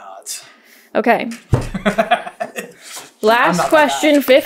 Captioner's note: giggles